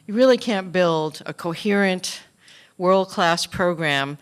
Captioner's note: none